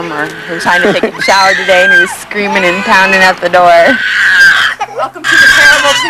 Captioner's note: laughter